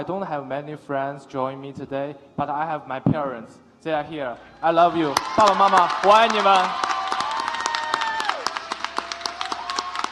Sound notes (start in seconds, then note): 5.6 speaks foreign language; 6.9 audience applauds